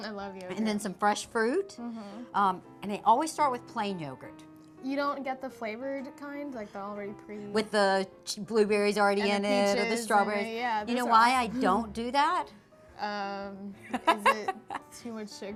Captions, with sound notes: >> I LOVE YOGURT. >> AND SOME FRESH FRUIT, AND I ALWAYS START WITH PLAIN YOGURT. >> YOU DON'T GET THE FLAVORED KIND? LIKE, THE ALREADY PRE -- >> WITH BLUEBERRIES ALREADY IT? >> OR PEACHES, YEAH. >> YOU KNOW WHY I DON'T DO THAT? >> IS IT -- [ LAUGHTER ] -- TO MUCH SUGAR?